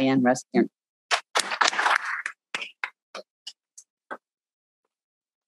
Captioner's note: people applauding